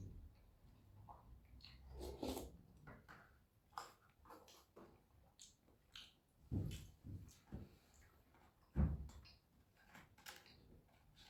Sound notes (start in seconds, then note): 1.6 slurp; 3.7 omnom